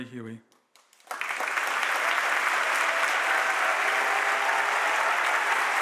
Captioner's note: audience applauds and cheers